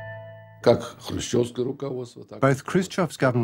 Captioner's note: speaking Russian